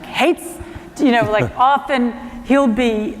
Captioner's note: laughter